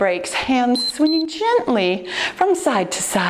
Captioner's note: timer beeps